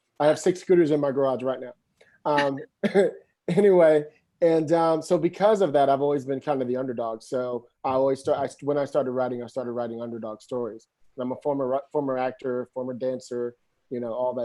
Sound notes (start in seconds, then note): 2.8 giggles